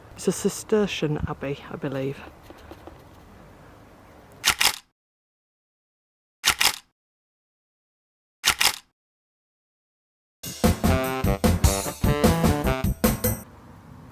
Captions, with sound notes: It's a Cistercian abbey, I believe. [Camera click] [Camera click] [Camera click] [Jazzy fill music]